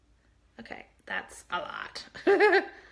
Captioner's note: laughs